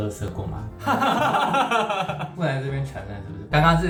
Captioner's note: awkward laugh